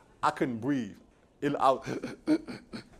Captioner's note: sobbing sounds